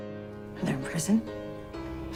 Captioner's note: voiceover